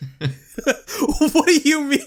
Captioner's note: both laugh